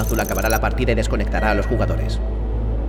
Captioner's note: console beeps; tense music plays